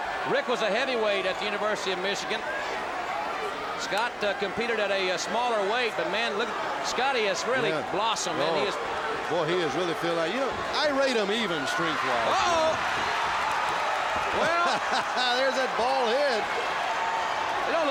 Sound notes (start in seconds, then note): 13.3 crowd cheers; 14.3 laughs